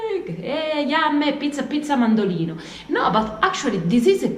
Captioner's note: speaking Italian